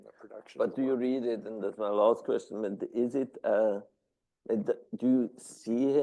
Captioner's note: stammering